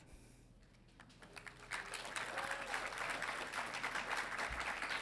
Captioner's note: audience applauding